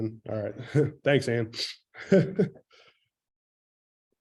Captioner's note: laughs